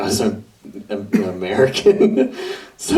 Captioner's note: laughs